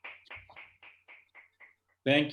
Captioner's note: applause